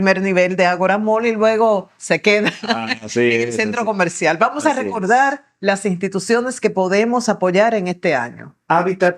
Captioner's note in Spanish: risas